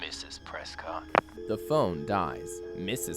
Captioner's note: the phone dies